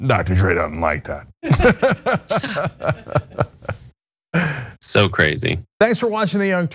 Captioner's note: laugh